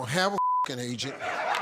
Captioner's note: beep